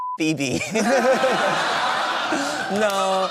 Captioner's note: laughter